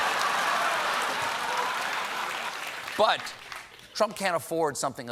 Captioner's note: applause